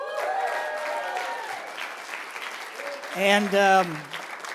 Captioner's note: cheers and applause